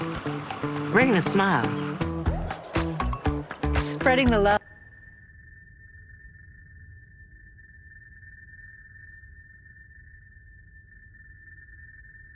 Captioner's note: cheers and applause